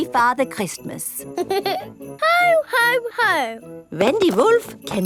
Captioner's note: giggles